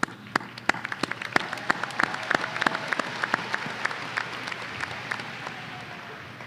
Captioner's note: audience applause